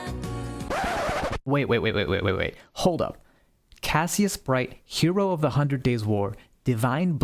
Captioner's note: record scratch